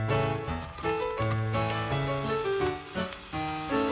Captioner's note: sizzling~